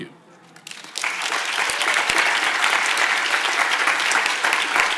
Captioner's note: audience applauds